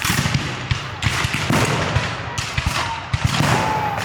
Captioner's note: guns fire